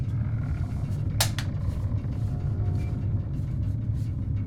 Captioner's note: can cracking